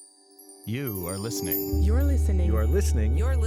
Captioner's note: chimes tinkling